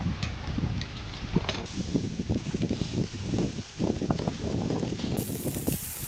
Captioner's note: sizzling sound